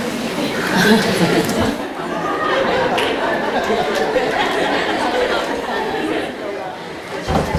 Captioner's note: chuckles